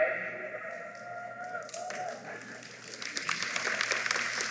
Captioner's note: applause